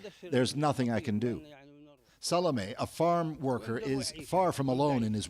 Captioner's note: speaking another language